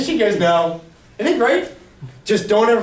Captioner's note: voiceover